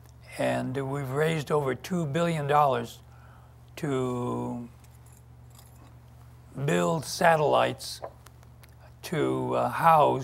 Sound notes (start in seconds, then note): none